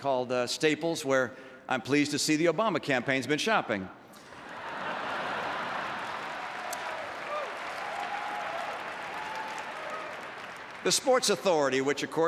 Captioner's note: laughter and applause